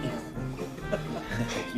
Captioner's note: men laughing